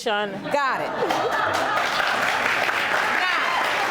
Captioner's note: all laugh